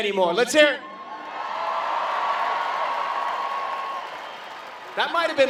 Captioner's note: cheering and Clapping